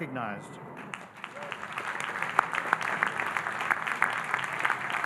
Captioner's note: audience applauding